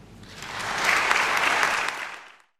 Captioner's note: audience applauding